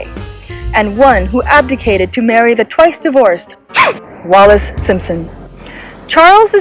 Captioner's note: gasp